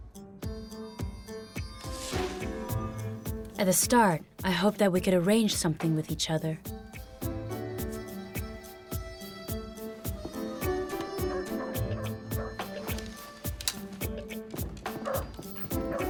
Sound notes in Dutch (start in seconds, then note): 1.7 vrolijke muziek gaat verder; 2.0 lucht suist; 11.4 honden blaffen